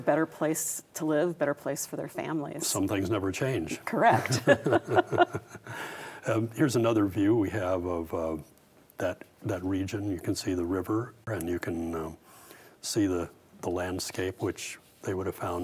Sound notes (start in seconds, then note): 4.2 both laugh